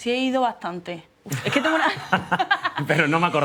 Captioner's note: laughing